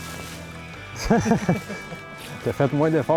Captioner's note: laughing